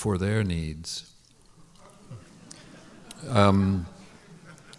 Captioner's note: laughter